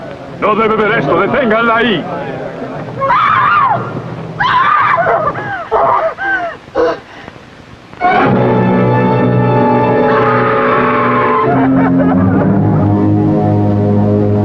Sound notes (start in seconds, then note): 4.4 screaming; 10.0 screaming